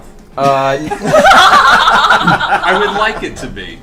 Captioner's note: all laugh